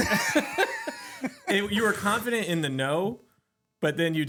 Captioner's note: both Laughing